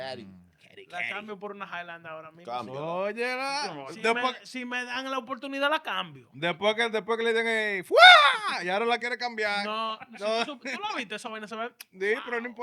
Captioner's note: speaking In Foreign Language